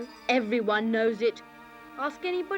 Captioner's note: none